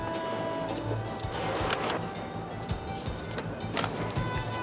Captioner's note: none